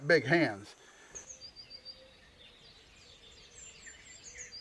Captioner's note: birds chirping